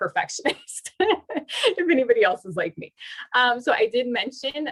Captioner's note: laughter